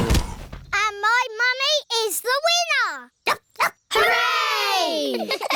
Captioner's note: groaning; barks; giggling